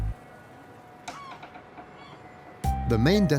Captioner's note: birds calling